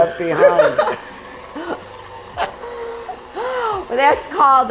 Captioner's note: all chuckle